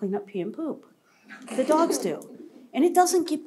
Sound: laughter

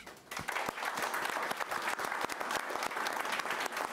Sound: applause

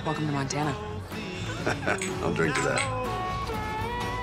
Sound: laughs

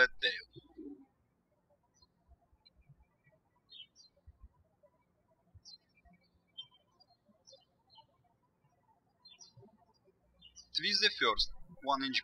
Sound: birds chirping

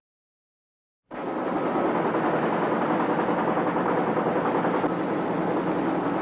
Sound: printing machines rattling

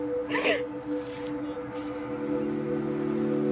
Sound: Ellie sobs

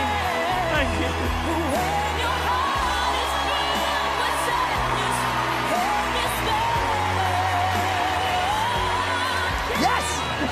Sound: crowd cheering; laughs

